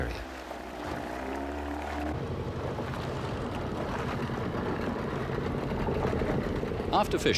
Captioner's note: boat motor hums